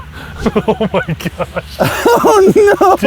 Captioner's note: laughs